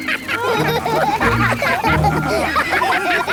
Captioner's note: all laugh